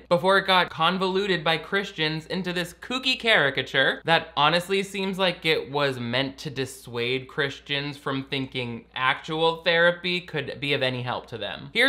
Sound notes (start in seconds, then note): none